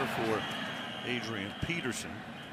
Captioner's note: pa announcement